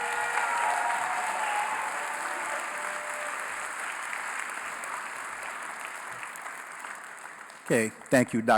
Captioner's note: applause